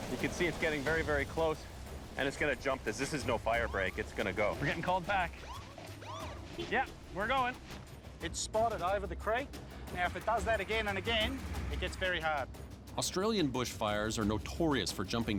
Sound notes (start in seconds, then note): 6.1 siren whoops; 6.7 horn honks